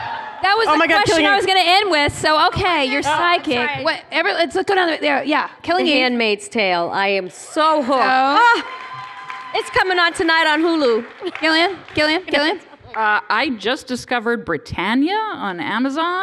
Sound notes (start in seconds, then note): 7.8 cheering